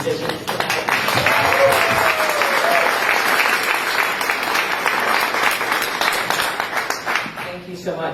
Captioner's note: applause